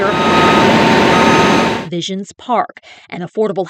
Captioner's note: sound of machinery